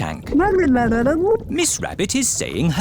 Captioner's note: gurgling